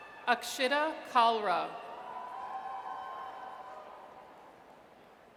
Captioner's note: audience cheers